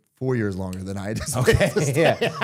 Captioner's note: laughing